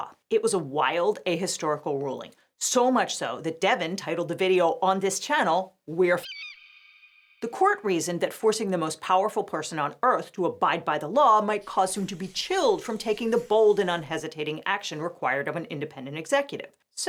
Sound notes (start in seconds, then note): 6.2 eagle calls